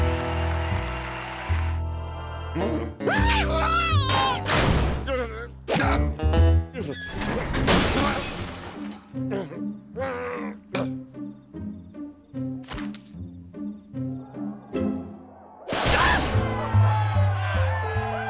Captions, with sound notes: UH-OH. AH! AHH! (angered grunt) AH! (crowd cheering)